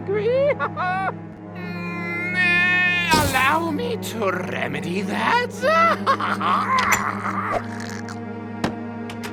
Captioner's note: chortles